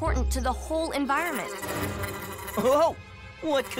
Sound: buzzing

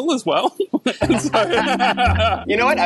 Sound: laughing

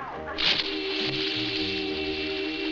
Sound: water splashing; singing

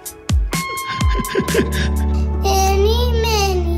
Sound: laughing

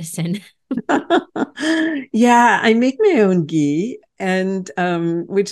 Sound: laughs

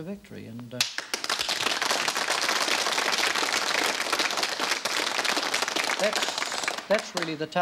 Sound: applause

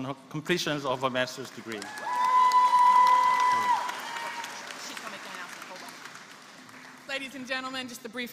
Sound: applause

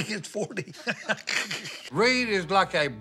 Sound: laughs

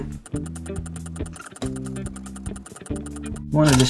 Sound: talking stop, camera clicking resumes

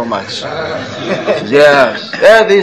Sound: laughter

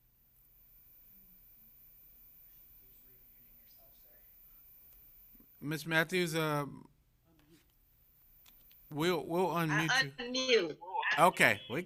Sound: silence

